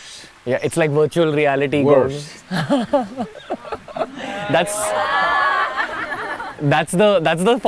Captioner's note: laughter